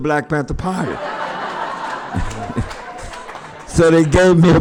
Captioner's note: laughter